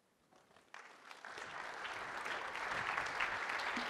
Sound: applause

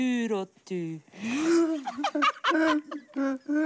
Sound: both laugh

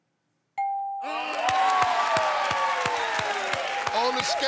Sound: cheers and applause

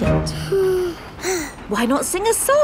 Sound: both sigh

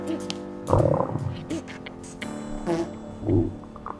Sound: belly gurgling

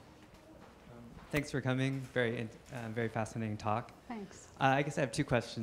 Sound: voiceover

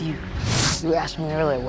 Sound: air whooshing

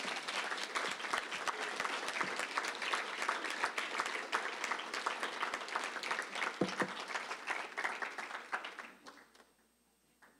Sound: applause

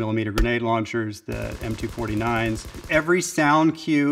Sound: gun sounds

